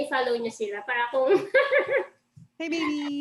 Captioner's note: laughs